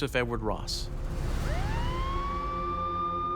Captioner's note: emergency siren